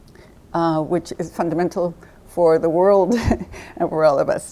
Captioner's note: laughing